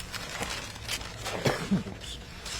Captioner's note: coughing